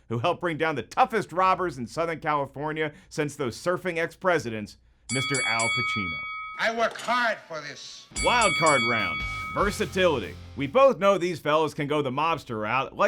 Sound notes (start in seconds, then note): 5.1 bell dinging